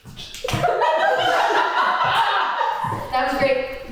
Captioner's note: cast and crew laughing